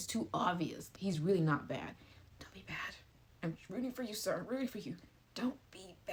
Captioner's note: whisper